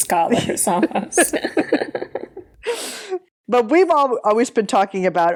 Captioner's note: laughing